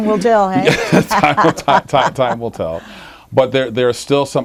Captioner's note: laughing